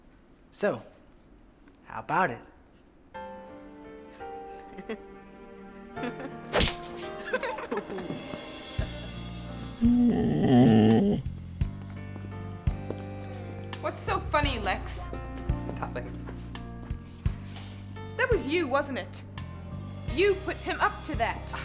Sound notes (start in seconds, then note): 4.3 laughing; 9.4 groans